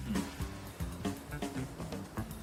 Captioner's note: none